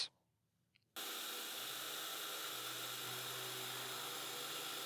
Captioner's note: machine whirring